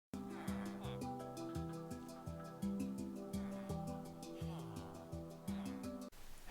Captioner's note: villager Sounds